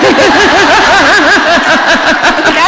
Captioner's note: laughter